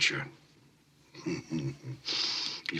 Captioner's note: chortling